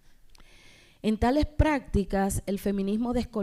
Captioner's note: speaking spanish